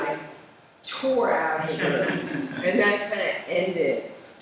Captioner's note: laughter